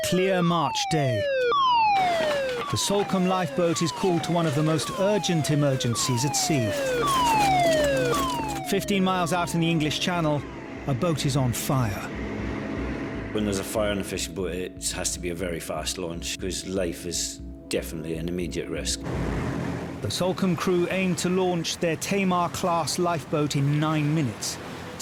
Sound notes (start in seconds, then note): 6.8 feet thud